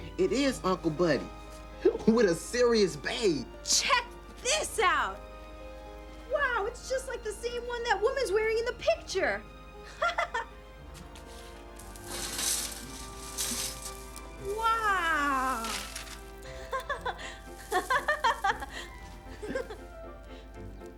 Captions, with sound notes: - It is uncle Buddy, with a serious babe. - Check this out. Wow it's just like the same one that woman's wearing in the picture. Wow. (laughter)